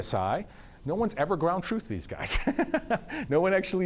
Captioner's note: laughs